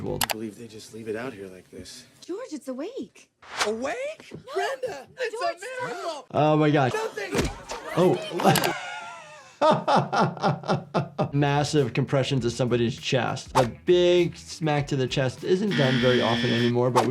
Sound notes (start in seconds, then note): 9.6 Jordan laughing